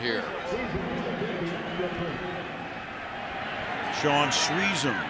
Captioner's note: pa announcement